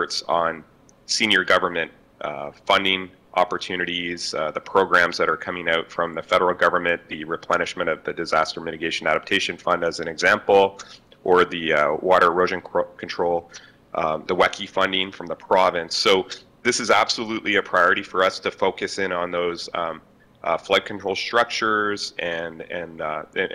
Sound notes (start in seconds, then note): none